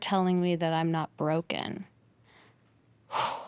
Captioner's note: exhales